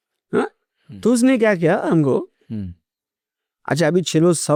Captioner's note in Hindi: गला साफ़ करने की आवाज़